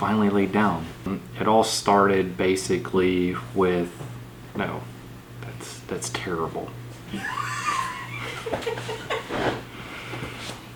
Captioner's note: laughter